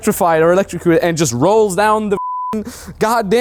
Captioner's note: beep